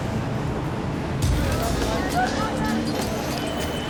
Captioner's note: noisy street traffic